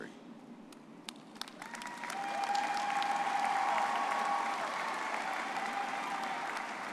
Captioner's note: audience cheering and applauding